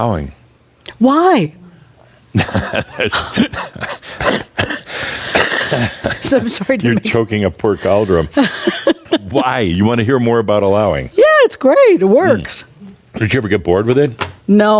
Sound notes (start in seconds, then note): 2.3 they chuckle and Adamus starts coughing; 8.0 laughs